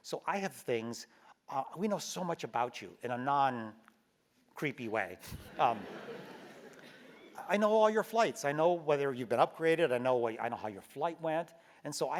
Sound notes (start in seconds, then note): 5.5 laugh